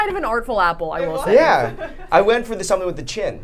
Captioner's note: laughing